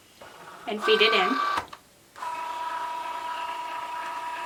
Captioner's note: machine whirring